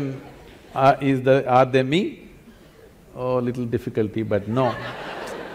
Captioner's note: laughter